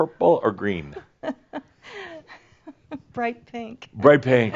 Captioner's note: chuckling